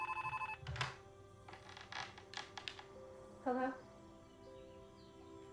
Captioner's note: telephone ringing